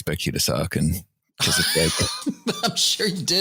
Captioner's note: laughter